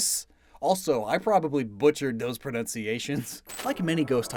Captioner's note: self-deprecating chuckle